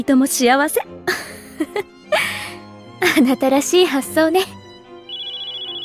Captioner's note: chuckle